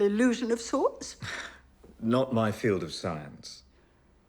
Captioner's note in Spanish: risas